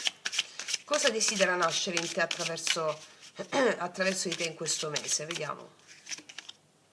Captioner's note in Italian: schiarire la voce